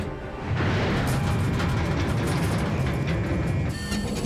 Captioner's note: gunshot